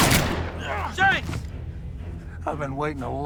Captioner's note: shotgun booming; Shanks grunting